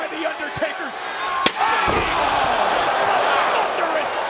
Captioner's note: chair slams